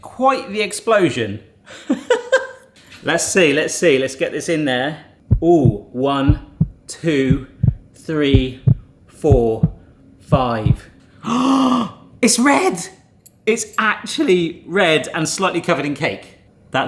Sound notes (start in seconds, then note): 2.2 laughs; 9.2 heartbeat thumping; 11.2 gasps